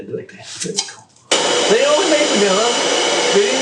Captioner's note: mixer whirring